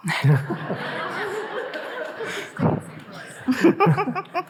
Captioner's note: audience laughing